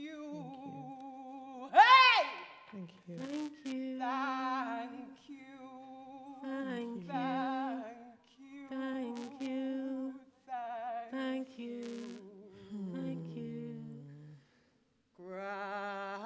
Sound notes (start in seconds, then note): 0.1 voices overlap, repeat, reinforce; 11.6 voices overlap, repeat, reinforce